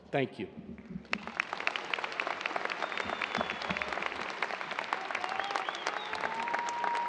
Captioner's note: audience cheers and applause